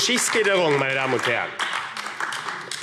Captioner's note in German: Beifall AfD